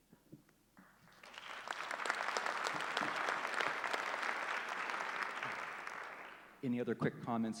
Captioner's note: applause